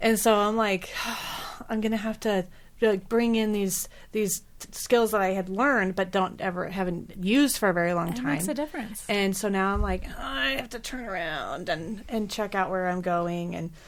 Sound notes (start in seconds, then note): 1.6 sighs; 10.1 groans